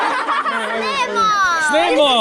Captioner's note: speaks in dialect